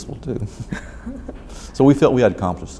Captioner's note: both laugh